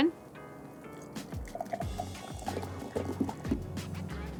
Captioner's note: water sloshing